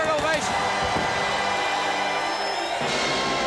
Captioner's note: crowd cheering